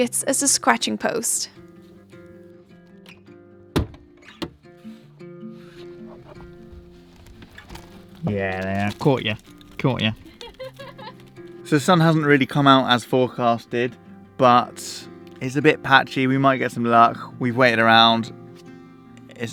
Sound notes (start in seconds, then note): 8.4 gentle music; 10.0 laughs